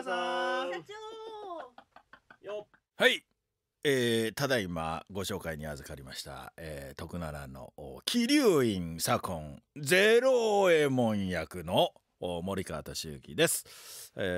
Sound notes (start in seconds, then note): 11.9 laughs